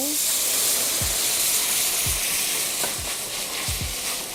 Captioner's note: sauce sizzles